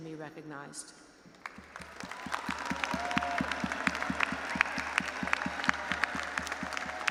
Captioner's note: audience applauding and cheering